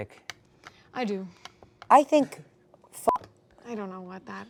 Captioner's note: beep